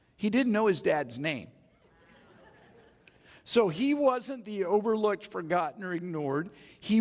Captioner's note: audience chuckles